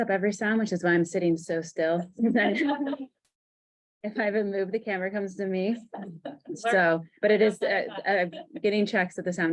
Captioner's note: laughter